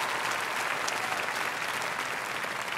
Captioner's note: applause